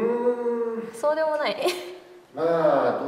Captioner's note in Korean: 웃음